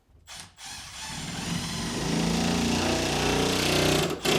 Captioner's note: drill whirring